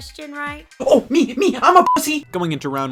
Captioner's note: beep